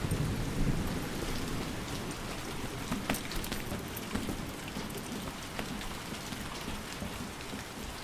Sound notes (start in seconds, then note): 1.8 footfalls padding; 1.8 water rapidly trickling